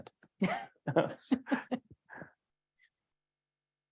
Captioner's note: laugh